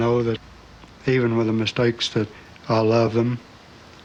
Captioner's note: none